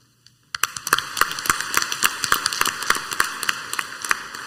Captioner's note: clapping